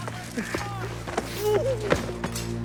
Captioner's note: tarly grunts